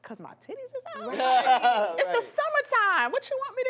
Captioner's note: group laughs